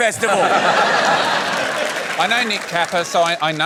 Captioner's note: laughter